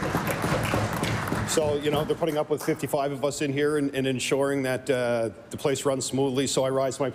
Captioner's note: applause